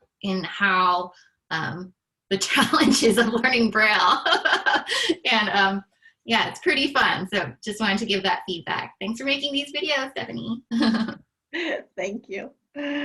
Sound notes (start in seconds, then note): 4.0 laughter; 10.7 laughter